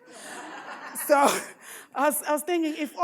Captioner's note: audience laughs